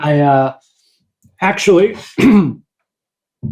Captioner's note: clears throat